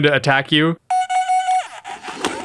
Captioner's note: electronic menacing beeping noises; electronic lunging forward noises